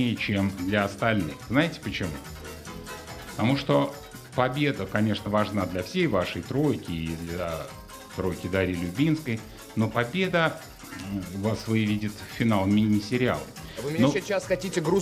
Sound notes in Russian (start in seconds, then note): none